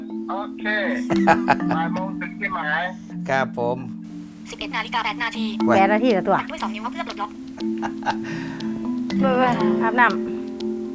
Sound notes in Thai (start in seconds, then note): 2.4 เสียงจากโทรศัพท์; 3.9 เสียงโทรศัพท์